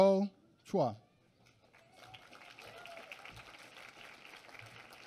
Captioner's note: applause